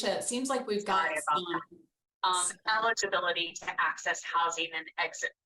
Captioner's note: voice echoing